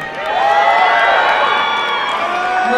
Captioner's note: applause and cheering